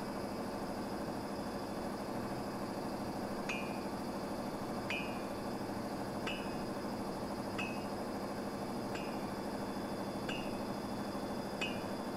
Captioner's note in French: sound of a mill and cobblers workshop plays